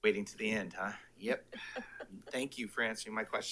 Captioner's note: attendee laughs